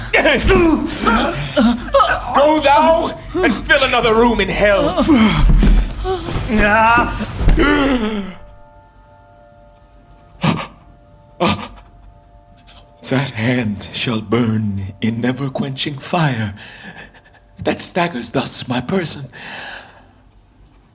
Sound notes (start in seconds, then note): 0.1 scuffle; 5.0 scuffle; 7.6 gasp; 10.4 gasping